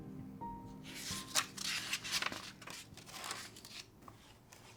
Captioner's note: papers rustling